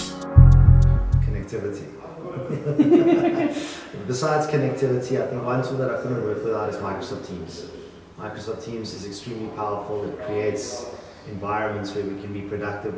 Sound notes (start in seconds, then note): 2.3 laughing